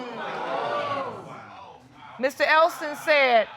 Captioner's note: audience exclaiming